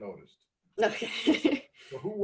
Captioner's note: laughs